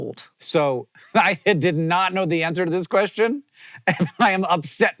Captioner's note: laughing